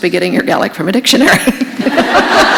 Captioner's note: laughter